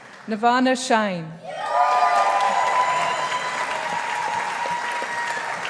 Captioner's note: audience applauding